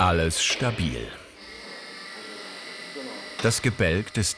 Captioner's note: whirring